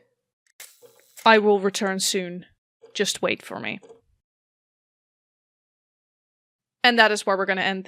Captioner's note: mechanical whir